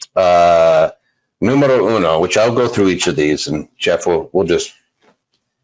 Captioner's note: murmurs